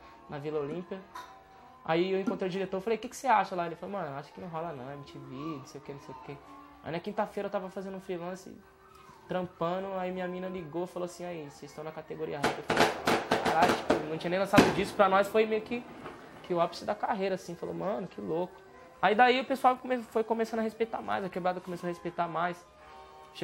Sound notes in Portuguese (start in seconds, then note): 12.4 Fogos de artifício